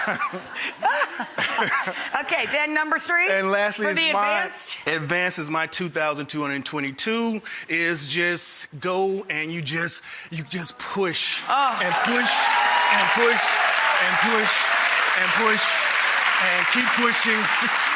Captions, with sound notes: Okay, then number three. And lastly- For the advanced. Advanced is my 2222, is just go and you just, you just push and push- (audience applause) And push, and push, and push, and keep pushing (laughs).